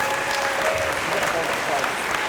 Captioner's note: applause